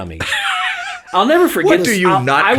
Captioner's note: laughing